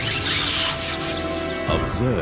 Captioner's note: electrical zaps